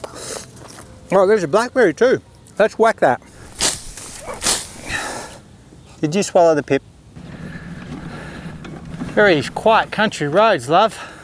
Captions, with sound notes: Oh there's a blackberry too. Let's whack that. [whack] Did you swallow the pip? Look at these quiet country roads, love.